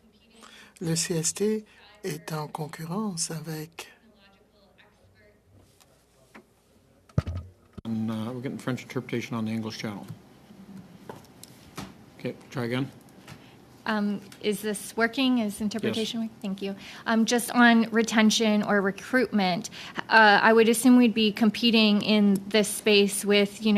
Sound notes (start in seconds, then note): 5.8 speaking French